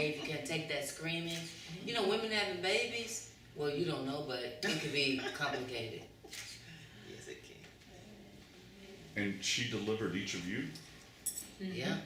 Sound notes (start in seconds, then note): 4.6 laughter